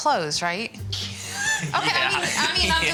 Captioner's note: laughing